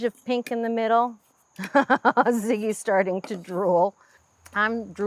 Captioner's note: chuckles